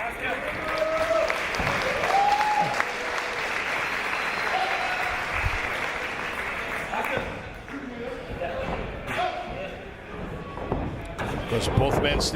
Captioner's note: applause